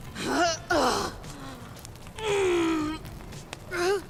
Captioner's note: moaning in pain